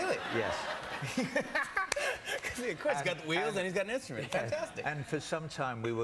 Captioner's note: laughter